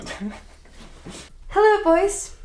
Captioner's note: Jonathan laughs